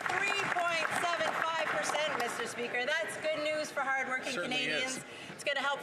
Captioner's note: some Applause